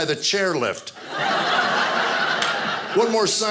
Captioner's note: audience laughing